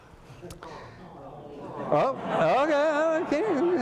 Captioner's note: audience groans